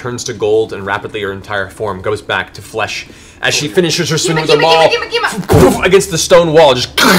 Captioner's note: impact sound